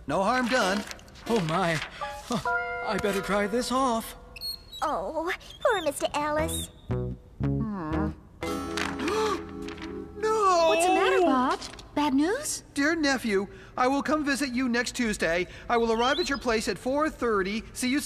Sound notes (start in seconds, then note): 9.0 gasp!